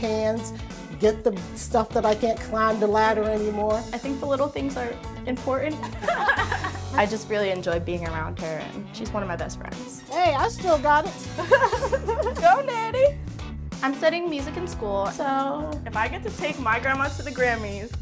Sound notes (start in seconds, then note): 5.8 laughter; 11.3 laughing